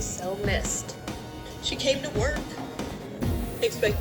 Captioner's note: on TV